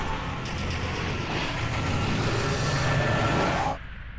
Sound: electronic interference, howling

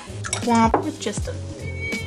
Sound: bwomp

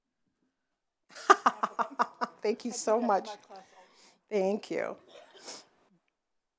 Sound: laughs

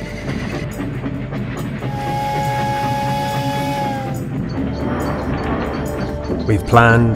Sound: train chugging; train whistling

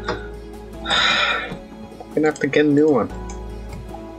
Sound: sigh

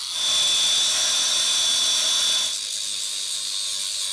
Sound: grinder whirring

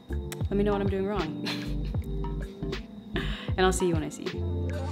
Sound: laughs

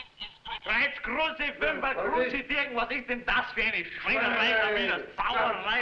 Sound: shouting in foreign language

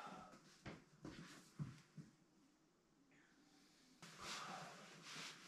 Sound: sighs

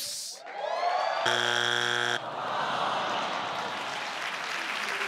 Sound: buzzer beeps

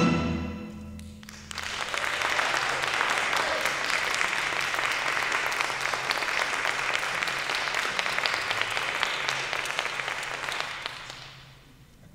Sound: applause

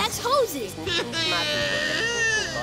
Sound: sobbing

